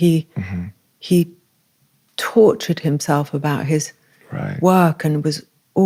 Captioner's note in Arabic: يمسح الحلق